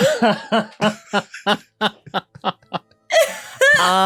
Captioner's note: laughing